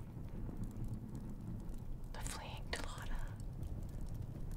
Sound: whispers

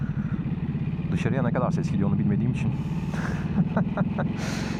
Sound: güler

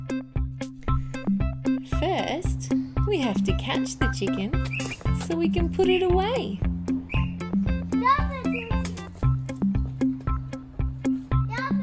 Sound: toddler laughing

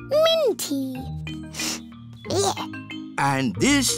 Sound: sniffs

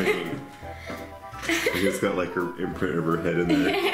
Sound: laughing

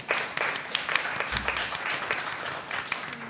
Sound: applause

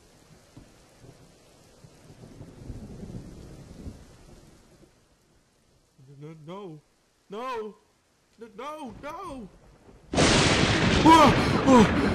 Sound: loud lightning boom

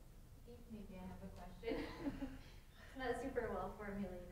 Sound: laughs

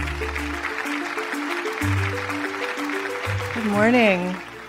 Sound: audience clapping

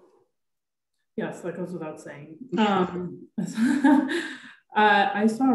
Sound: chuckles

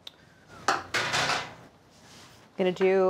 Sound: container clanks

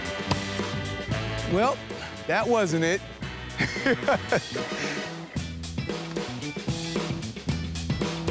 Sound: laughs

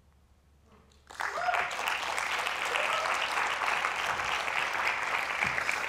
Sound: applause

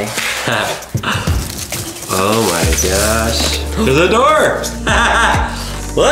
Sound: laughs; laughing

